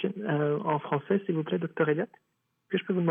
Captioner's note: speaking French